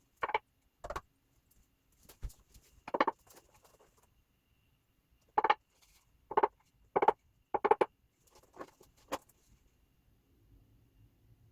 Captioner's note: wooden knocking